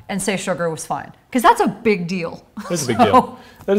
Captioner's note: laughs